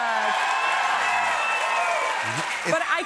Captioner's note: cheers and applause